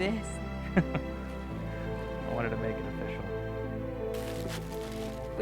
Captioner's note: chuckles